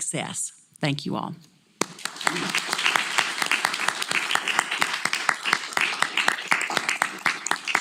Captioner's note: applause